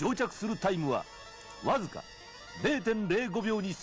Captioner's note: non-english speech